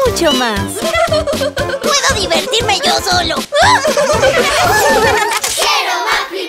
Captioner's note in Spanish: Risas